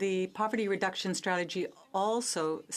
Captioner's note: speaking in French